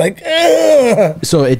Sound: grons

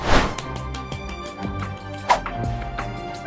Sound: whooshing sound effect; background music; clapping; background music

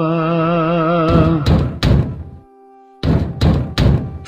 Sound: someone knocking door

